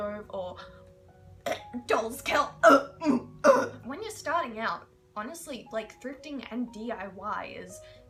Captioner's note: vomit noises